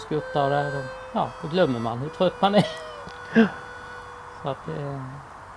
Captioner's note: laughs